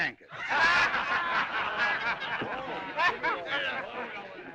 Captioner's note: جمهور يضحك